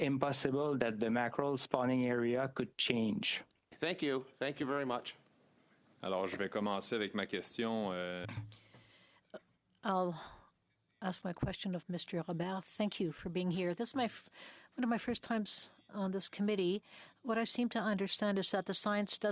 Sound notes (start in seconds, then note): 12.3 speaking French